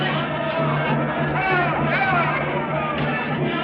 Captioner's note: man barking orders